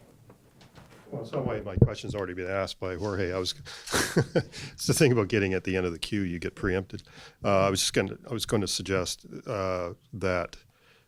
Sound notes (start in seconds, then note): 0.9 voiceover; 3.7 laughs